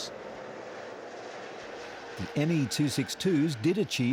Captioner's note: engine roaring